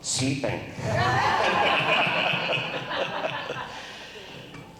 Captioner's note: crowd laughs